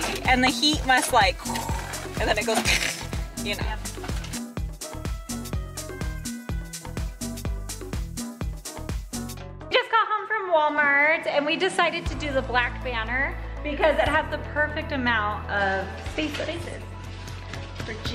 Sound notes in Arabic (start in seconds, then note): 1.4 تكسر الضوضاء; 2.2 ضوضاء الخشخشة